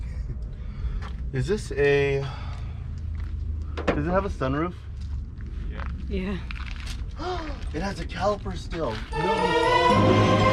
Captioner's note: gasp